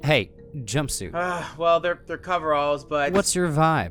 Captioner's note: sigh